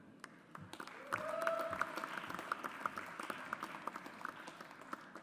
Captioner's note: audience applauds